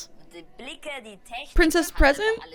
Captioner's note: show contestant speaking in German